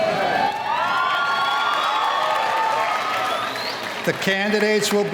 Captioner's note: audience cheering